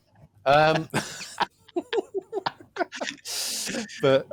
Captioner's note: laughter